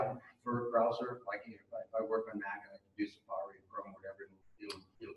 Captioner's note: speaking off mic